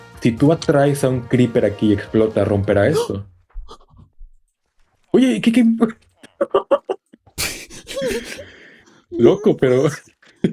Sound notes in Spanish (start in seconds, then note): 6.2 risas